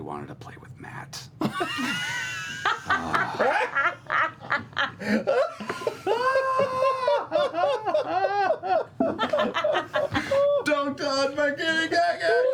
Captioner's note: laughter